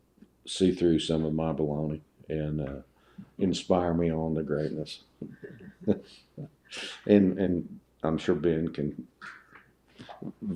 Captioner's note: laughs